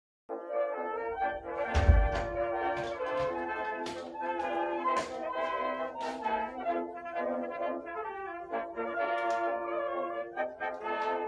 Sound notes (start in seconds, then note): 3.6 bang